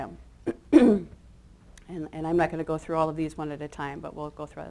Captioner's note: clears throat